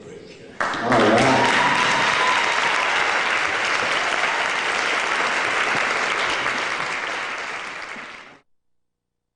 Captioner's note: applause